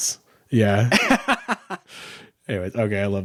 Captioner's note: laughing